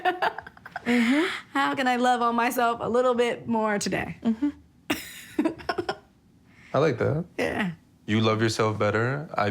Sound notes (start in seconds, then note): 4.9 giggling